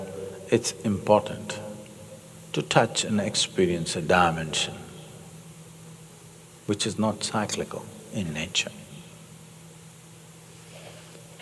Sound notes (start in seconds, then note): none